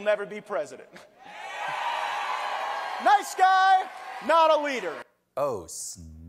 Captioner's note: cheering